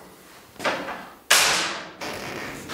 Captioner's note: loud bang; low creak